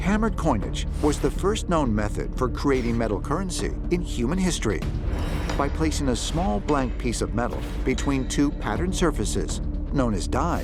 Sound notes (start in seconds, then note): none